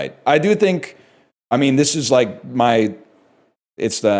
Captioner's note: none